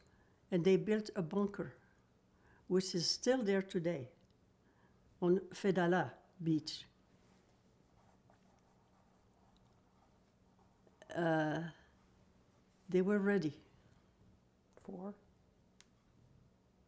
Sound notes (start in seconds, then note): 6.5 pauses 6 seconds